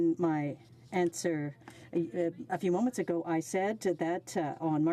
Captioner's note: speaking French